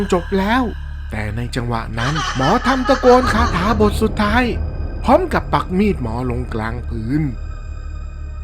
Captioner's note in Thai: เสียงหัวเราะ